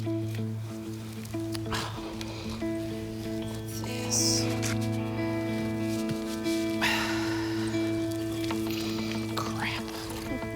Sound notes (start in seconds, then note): 1.6 sighs; 6.5 sighs